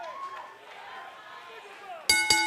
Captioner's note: bell ringing